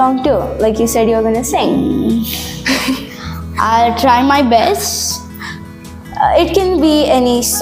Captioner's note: laughs